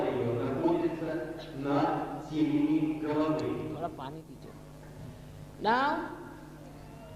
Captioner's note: HINDI - Thoda paani dijiye